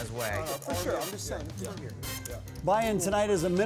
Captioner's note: poker players chatting